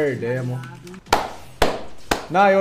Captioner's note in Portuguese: palmas